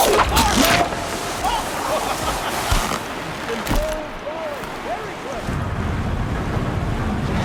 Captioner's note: laughs